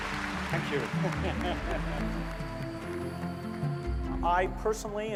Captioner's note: applause; laughing